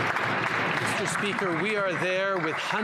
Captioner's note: some Applause